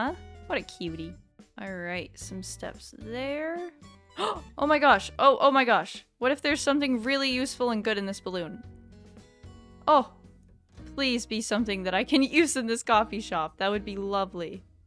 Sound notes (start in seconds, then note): 4.2 gasp